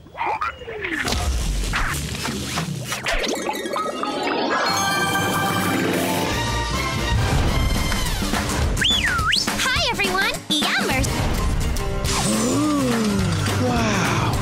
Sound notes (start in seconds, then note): 8.7 whistles